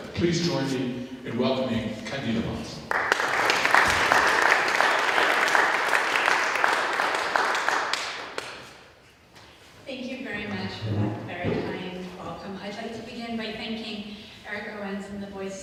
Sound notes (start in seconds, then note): 2.8 applause